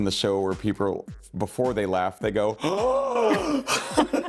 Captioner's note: gasping and laughing